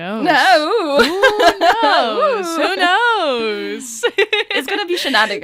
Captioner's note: laughter